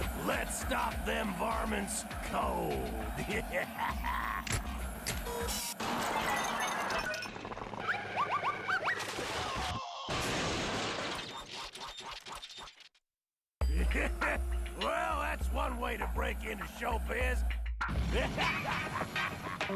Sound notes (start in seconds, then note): 3.1 laughs maliciously; 10.2 crashing; 18.1 Sam laughing